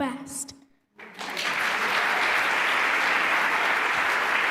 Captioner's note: applause